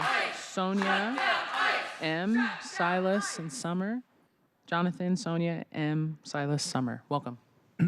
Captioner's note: applause